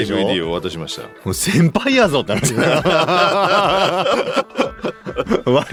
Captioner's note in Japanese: 笑い